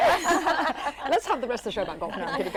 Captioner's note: laughter